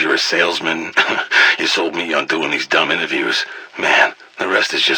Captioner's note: laugh